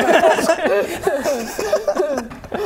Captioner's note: giggles